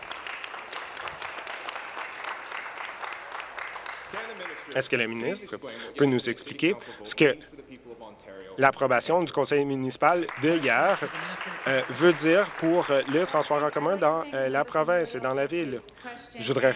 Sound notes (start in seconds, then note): 4.1 applause